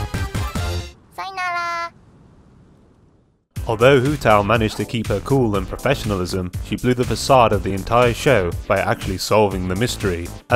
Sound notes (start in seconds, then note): none